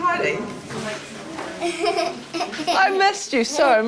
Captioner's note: laughter